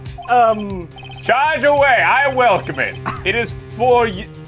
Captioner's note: scoffs